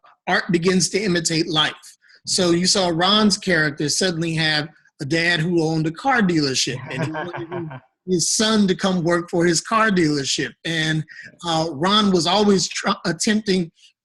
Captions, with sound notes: art begins to imitate life. So you saw Ron's character suddenly have a dad who owned a car dealership, - (Laughing) - And wanted his son to come work for his car dealership. Ron was always attempting a variety